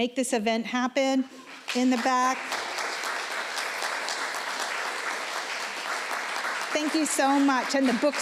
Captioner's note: applause